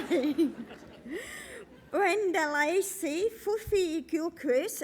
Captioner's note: laugh